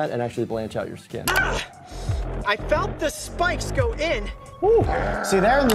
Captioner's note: grunts